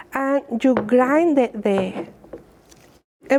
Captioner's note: none